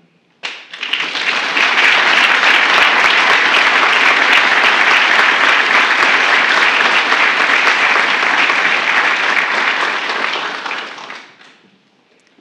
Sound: applause

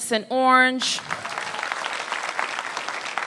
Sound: applause

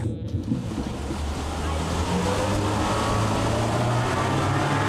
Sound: boat engine roaring

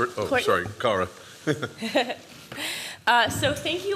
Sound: laughter

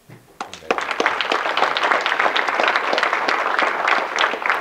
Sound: audience clapping

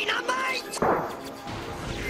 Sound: Explosion noise from Secret of Evermore

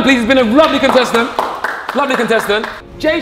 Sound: Tobi applauds

